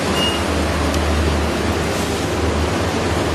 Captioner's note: device beeping